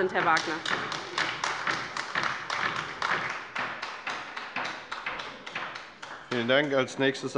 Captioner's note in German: Beifall bei der LINKEN